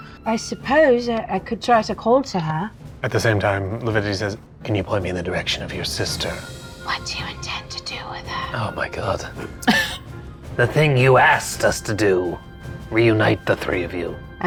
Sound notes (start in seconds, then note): 9.5 chuckling